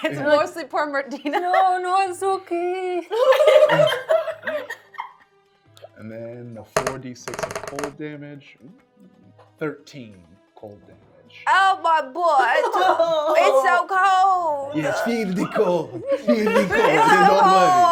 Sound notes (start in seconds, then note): 3.1 laughing; 8.9 dice rolling